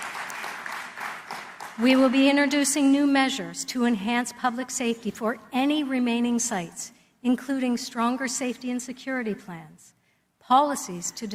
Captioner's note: applause